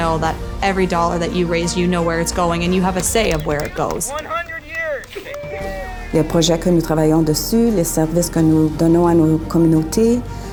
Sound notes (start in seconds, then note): 5.5 crowd cheers; 6.5 speaks in French